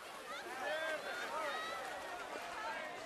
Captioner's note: crowd chattering